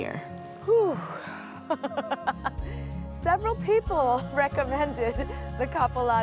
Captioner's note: laughs